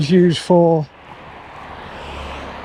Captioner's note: engine roaring